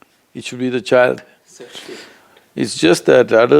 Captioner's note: laughs